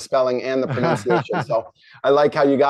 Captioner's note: chuckles